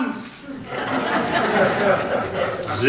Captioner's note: audience laughter